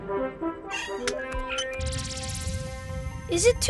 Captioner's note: buttons beeping